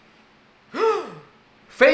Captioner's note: gasps